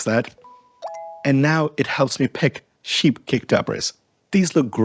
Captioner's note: bells chime